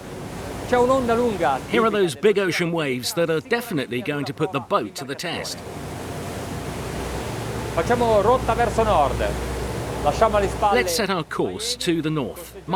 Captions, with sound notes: (speaking in foreign language) Here are those big ocean waves that are definitely going to put the boat to the test. (speaking in foreign language) Let's set our course to the North.